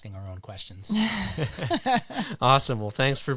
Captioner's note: all laughing